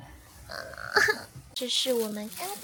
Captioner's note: pig squeal